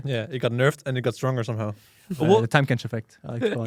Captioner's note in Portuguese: risos